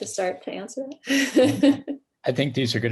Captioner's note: laughs